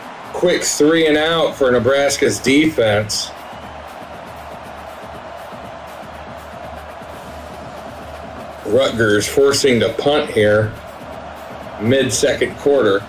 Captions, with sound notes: Quick three and out for Nebraska's defense. (crowd cheering) Rutgers forcing to punt here, mid second quarter.